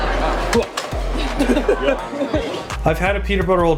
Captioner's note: laughs